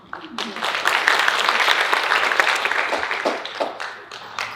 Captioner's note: audience applauding